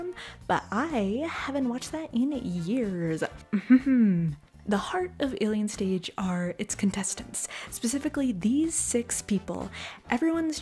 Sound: haha

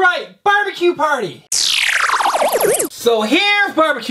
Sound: electronic trill

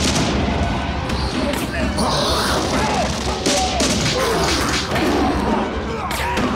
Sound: guns blasting; mummies growling

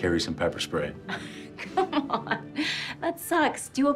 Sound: laughs

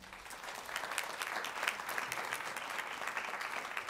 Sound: crowd applauds

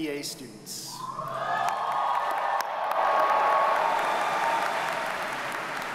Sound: audience cheers and applauds

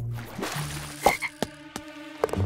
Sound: croaking

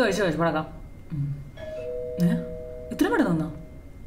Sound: door bell ringing

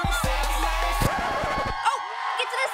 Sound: record scratch

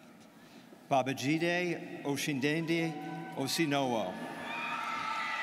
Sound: students cheering

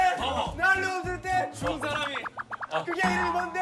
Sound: flapping around

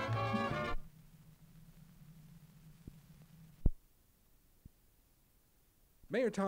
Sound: no audio

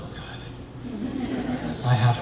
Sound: chuckles

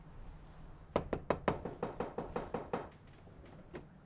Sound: knocking

